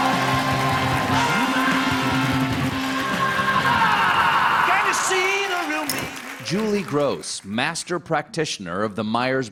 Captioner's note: cheers and applause